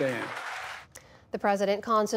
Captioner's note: applause